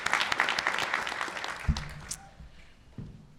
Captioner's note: applause